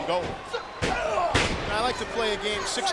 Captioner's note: wrestler thuds